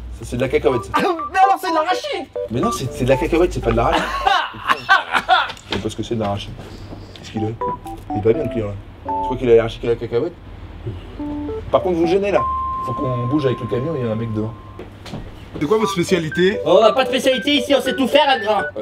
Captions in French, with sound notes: - Ça c'est de la cacahuète. - Mais alors, c'est de l'arachide ! - Mais non ! C'est de la cacahuète. C'est pas de l'arachide ! - Hah ! Hah ! Hah ! (s'étouffe) - Je sais même pas ce que c'est de l'arachide. - Qu'est-ce qu'il a ? Il est pas bien le client, là... - Tu crois qu'il est allergique à la cacahuète ? - Par contre vous gênez là ! - Faut qu'on bouge avec le camion, il y a un mec devant. - C'est quoi votre spécialité ? - On n'a pas de spécialité, ici. On sait tout faire, là. Grand !